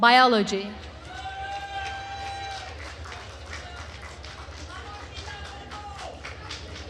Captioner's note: attendees cheering and applauding